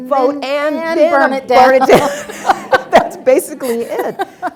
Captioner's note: laughs